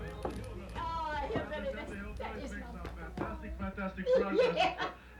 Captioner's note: granny laughing